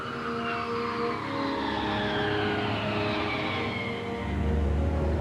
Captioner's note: jet engines roaring